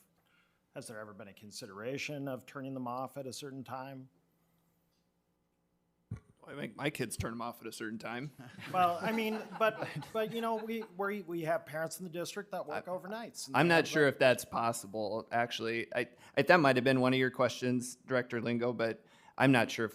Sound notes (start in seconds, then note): 8.4 people laughing